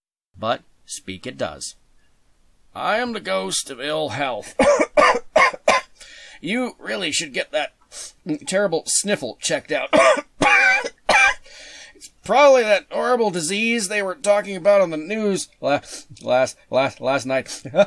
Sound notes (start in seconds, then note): 4.4 coughing; 7.9 sniff; 9.8 coughing